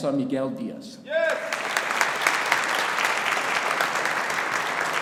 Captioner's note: audience applauding